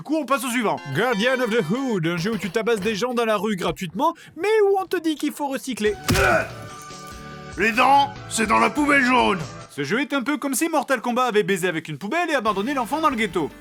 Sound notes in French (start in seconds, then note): 7.4 voix grave